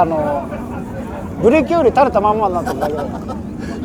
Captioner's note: laughs